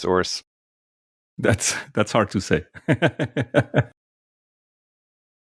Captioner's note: laughing